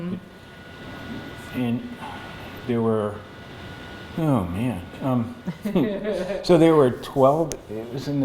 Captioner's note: laughter